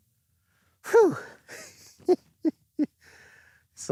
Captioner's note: laughs